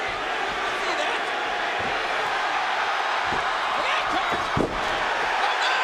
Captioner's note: audience cheering